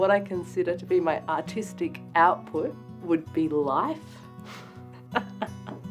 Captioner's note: laughs